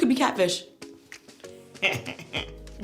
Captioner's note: chuckles